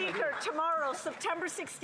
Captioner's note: some Applause